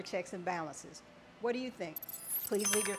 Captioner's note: graphic chiming